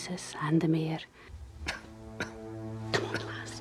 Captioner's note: man coughs